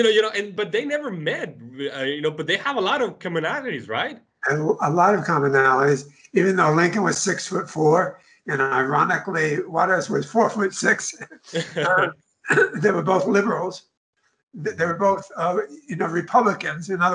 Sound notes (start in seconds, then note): 11.3 laughs